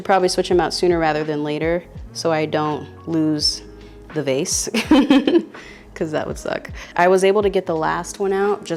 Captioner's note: laughs